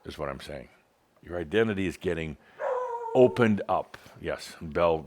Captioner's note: Belle starts barking again